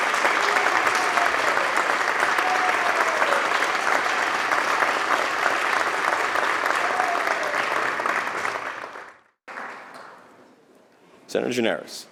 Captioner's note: applause